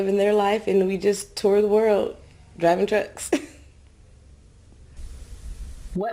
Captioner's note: laughs